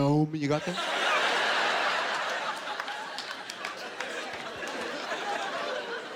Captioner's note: laughter